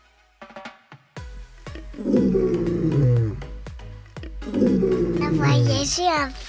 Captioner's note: roar of a lion